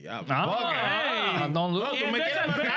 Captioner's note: speaking In Foreign Language